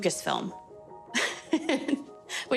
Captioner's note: laughs